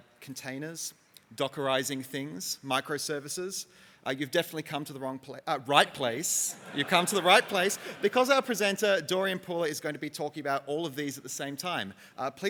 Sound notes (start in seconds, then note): 6.3 audience laughs